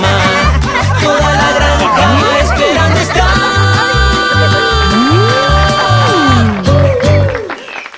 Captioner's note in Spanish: Risas; Aplausos